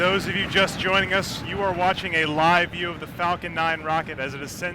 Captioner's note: cheers and applause